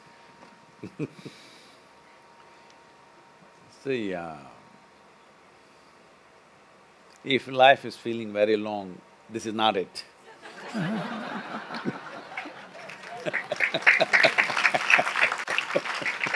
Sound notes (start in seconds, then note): 0.0 Sadhguru and Manish Laugh; 5.3 laughs; 10.4 laughter/Applause